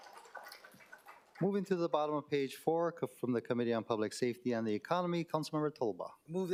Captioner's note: applause